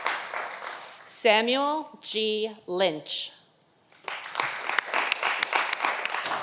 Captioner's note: audience applauding